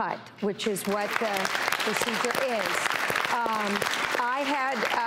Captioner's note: audience clapping